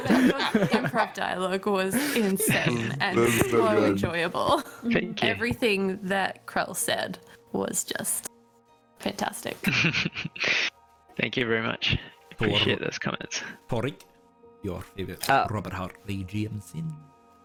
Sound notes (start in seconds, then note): 2.0 continued chuckles; 9.6 appreciative laugh